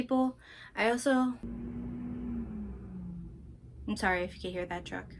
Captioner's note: truck noises